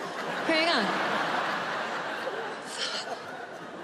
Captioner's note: audience laughing